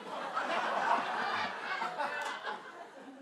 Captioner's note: laughter